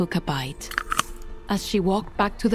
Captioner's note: apple crunches